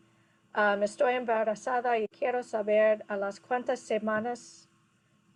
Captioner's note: speaking in foreign language